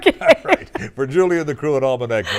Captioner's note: laughter